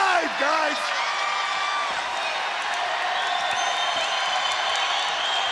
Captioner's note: audience cheering